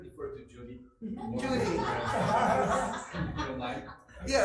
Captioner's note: laughter